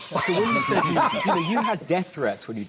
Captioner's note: laughs